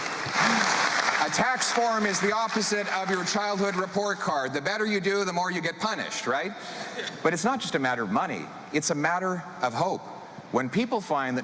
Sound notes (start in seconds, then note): 2.4 applause